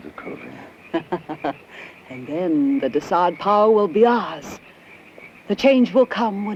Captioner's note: laughs